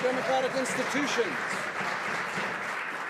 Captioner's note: some Applause